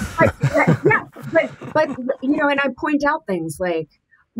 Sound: laughs

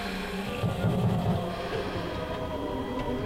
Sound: muffled knocking

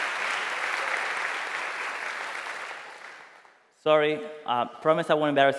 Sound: applause

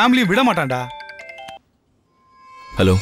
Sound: phone rings

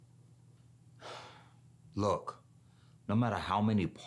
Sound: trey sighs

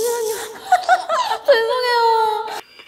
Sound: cracking up

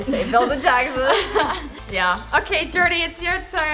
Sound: laughs

